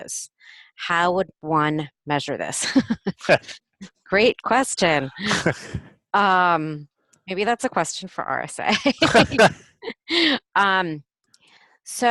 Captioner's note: laughing